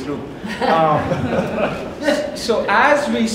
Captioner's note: audience laughs